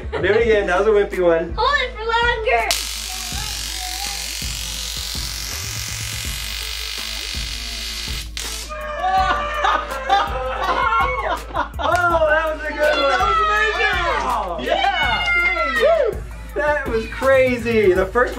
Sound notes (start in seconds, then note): 8.7 laughing and screaming; 14.8 screaming and laughing